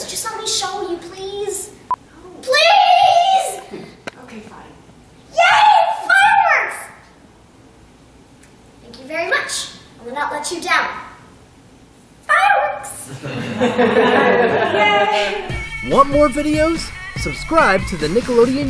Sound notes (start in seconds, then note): 13.1 laughter